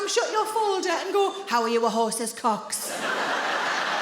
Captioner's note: in a deep voice